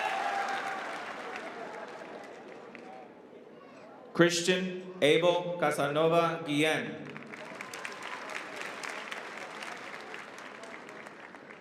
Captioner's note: applause